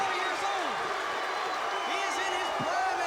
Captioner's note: crowd cheering